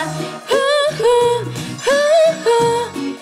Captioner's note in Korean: 후우